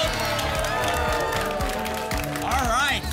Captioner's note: applause and cheering